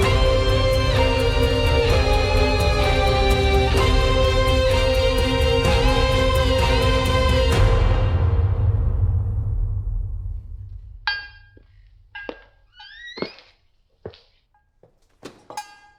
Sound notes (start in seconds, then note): 0.9 dark Piano Music Continues; 11.0 metal Clanking